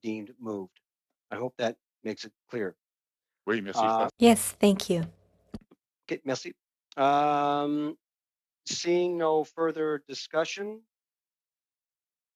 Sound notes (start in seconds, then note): 9.1 speaking French